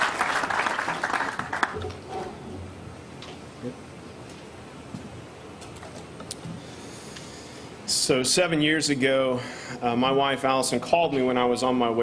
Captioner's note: applause